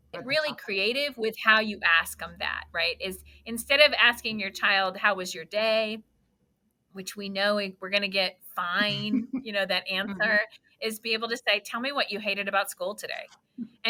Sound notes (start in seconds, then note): 8.8 laughs